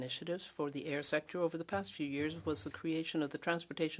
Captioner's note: speaking French